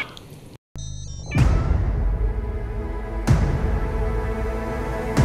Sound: robotic sounds; intense music

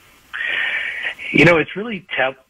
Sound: sighs

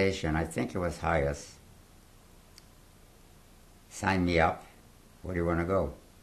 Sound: pauses for 3 seconds

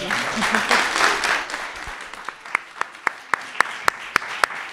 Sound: clapping

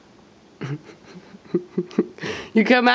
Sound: laughs

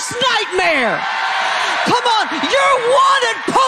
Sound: congregation cheering

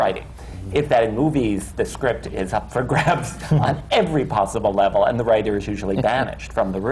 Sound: laughs

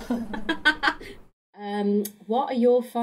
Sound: laughter

